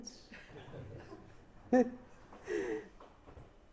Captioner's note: chuckles